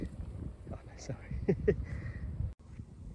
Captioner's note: laughing